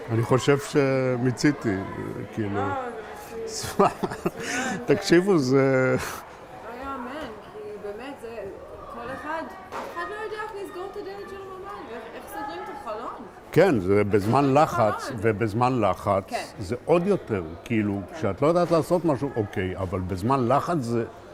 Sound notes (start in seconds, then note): 0.8 hebrew; 3.6 laughing; 8.7 hebrew